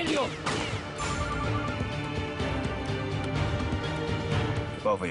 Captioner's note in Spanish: Suena el celular